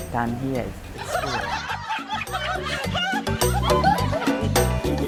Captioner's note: women laughing